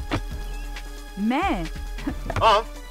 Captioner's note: chuckles